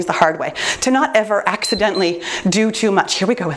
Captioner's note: timer beeps